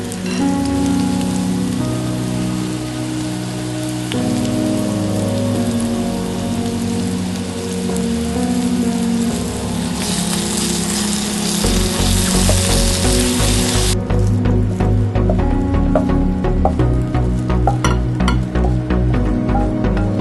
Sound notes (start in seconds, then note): 3.1 stir-fry mushrooms: 1/2 tsp sugar, sizzling sound in the background; 6.1 stir-fry mushrooms, sizzling sound in the background